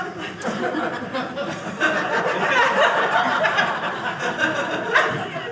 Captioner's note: audience laughing